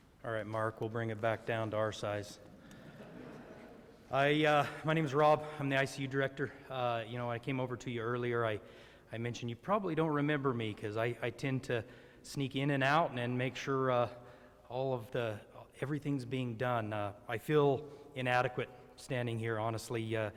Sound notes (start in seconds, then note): 2.8 audience chuckles